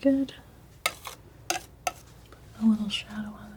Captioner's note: scratching